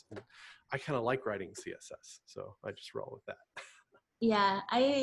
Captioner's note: giggles